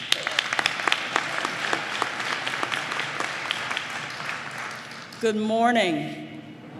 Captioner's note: applause